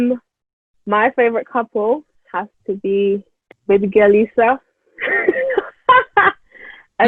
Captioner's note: laughs